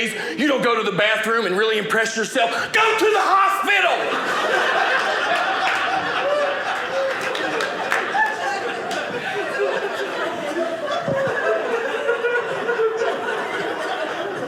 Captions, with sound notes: you don't go to the bathroom and really impress yourself, go to the hospital. (audience laughing)